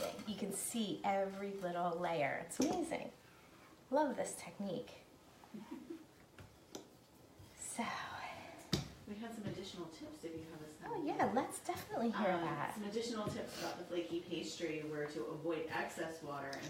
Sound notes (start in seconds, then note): 5.5 laughing